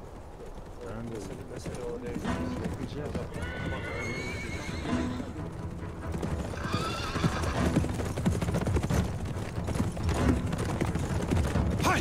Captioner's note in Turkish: Uğultu ve At Sesleri